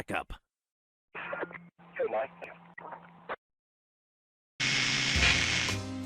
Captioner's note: police radio chatter; static